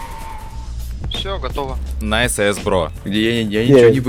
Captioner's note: screams